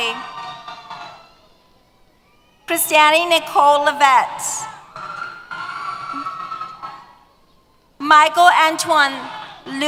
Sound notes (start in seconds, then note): 0.0 cheers; 4.3 cheers